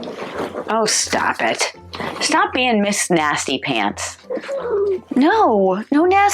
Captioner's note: cat growls